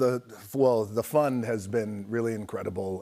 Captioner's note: none